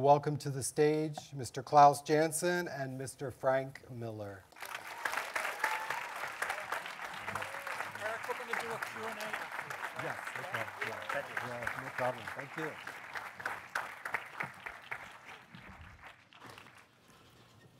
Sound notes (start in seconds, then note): 5.1 cheering and applauding